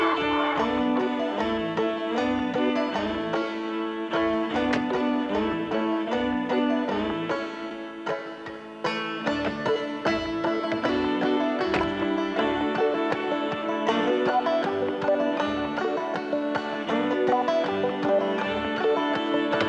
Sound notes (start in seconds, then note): 0.0 chicken clucking; 4.7 ax thumping; 7.1 bright acoustic music; 9.7 axes thumping